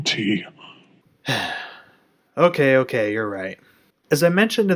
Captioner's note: sigh